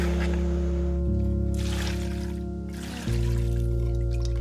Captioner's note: splashing